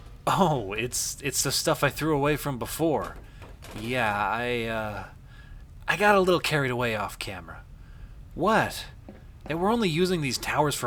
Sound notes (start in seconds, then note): 3.0 objects clatter